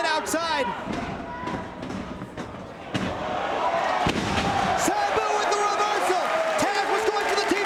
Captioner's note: applause